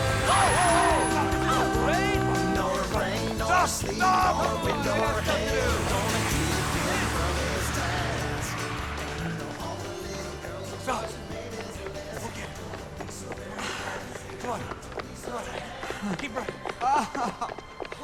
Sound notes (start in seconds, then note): 11.0 panting; 16.9 whimpers